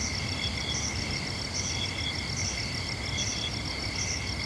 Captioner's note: crickets chirping